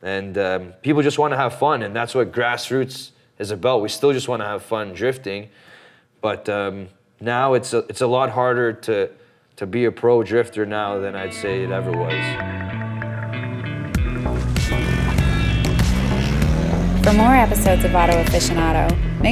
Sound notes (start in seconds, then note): 11.4 gentle music; 15.1 engine hums